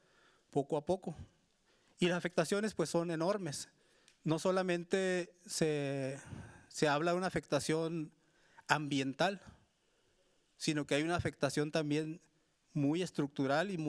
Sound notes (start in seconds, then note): 1.3 speaking Spanish continues